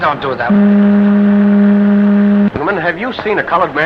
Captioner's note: ship horn